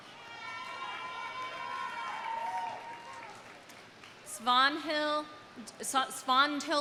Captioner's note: audience cheering; audience applauding